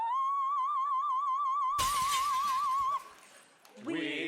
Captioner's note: holding high note; glass shattering